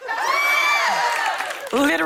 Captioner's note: cheers and applause